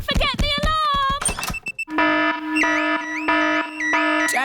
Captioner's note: alarm blaring